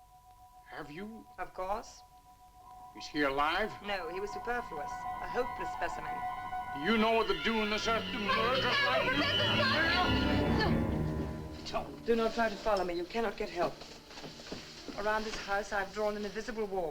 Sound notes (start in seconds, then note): 6.6 everyone shouting at once; 8.8 dramatic music